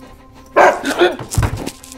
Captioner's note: Dog Barks